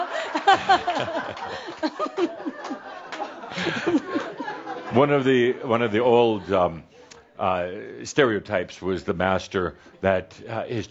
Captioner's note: more laughter